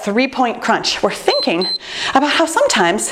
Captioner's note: timer beeps